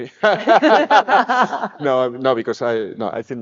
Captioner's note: all laughing